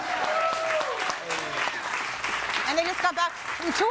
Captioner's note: audience cheering and applauding